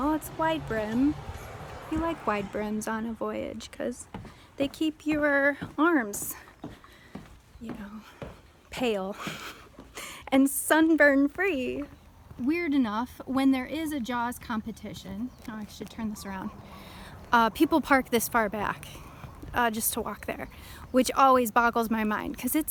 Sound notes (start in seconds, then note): 9.3 laugh